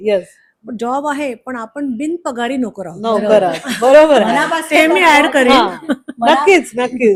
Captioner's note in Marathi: हास्य